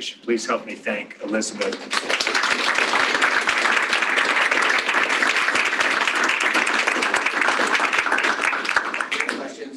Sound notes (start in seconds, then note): 1.4 applause